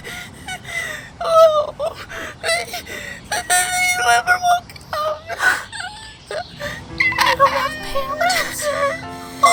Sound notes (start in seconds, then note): 2.6 sobs; 6.5 gasps